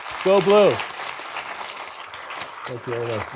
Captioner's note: audience clapping